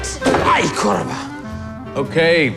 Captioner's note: groans